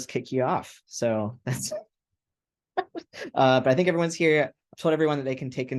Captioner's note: laughter